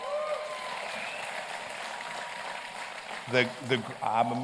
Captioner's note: applause and cheers